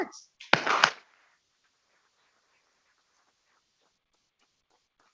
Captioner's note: people clapping